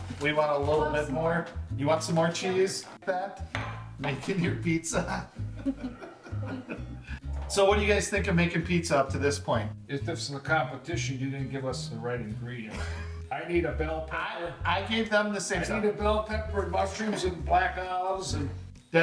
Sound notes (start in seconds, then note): 5.6 laughter